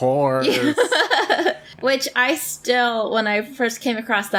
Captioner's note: laughs